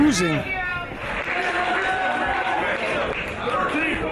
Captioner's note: applause